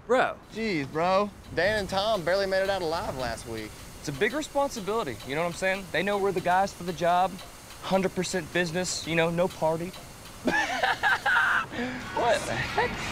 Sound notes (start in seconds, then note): 10.4 laughs